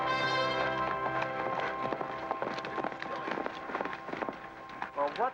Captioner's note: hooves pounding